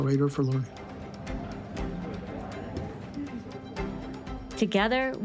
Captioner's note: bright music continues; students chattering